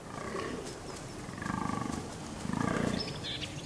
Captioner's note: deer grunting